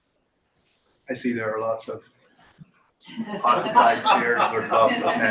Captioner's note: laughter from he room